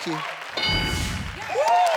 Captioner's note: ding sound; audience cheers